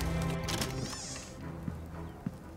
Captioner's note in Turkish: Kapı açılma sesi